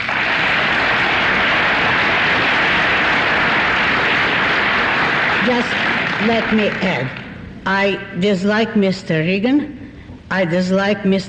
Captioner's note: applause